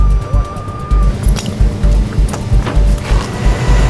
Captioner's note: ominous action music continues; chains clanging; tow truck winch whirring